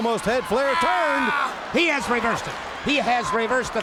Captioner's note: Flair screams